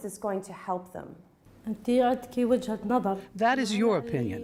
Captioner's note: through translator